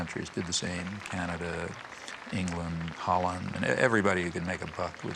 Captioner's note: audience applauding